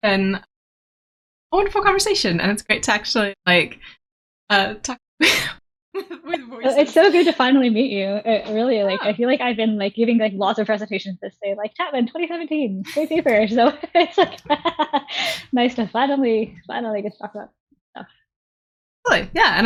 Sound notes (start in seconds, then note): 12.8 laughing